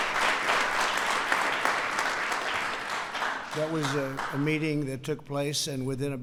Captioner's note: applause